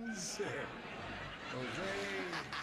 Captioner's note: laughter